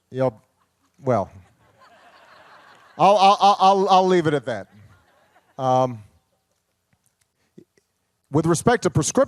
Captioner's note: laughter